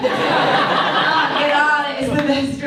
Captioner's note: audience laughs